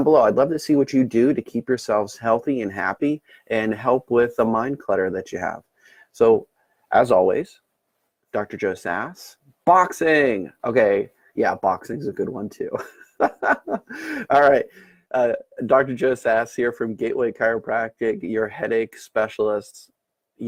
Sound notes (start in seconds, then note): 12.7 laughs